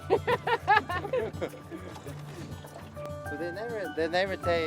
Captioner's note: laughing